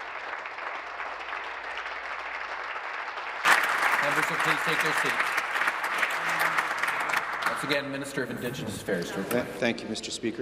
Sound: applause

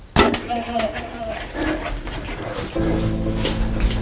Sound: arrow shooting; upbeat music

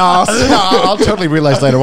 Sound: men laughing

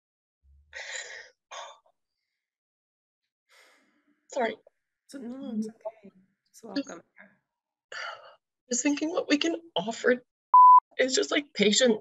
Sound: beep

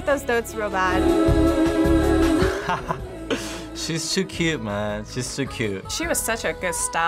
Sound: chuckles

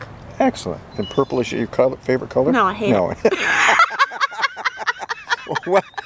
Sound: laughter

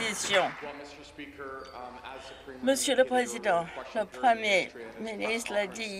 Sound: some Applause

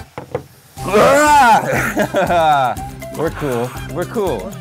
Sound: groaning

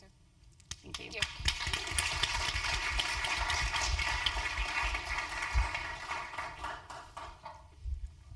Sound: applause

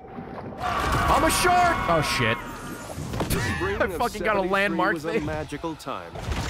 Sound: laughs

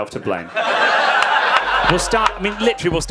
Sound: audience laughing

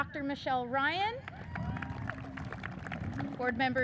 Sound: audience cheers and applauds

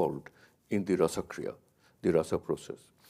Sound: speaks in a foreign language

